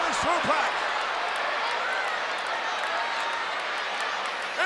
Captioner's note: audience cheers